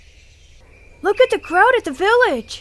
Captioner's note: people chattering